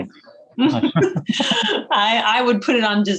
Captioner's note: both laughing